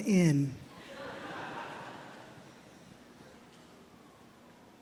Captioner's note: audience chuckles